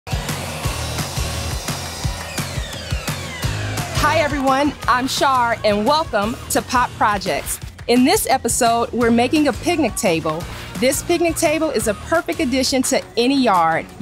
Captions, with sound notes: (table saw buzzing) (upbeat music) - Hi, everyone. I'm Char, and welcome to "Pop Projects." In this episode, we're making a picnic table. This picnic table is a perfect addition to any yard.